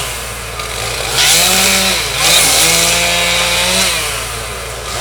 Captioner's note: chainsaw humming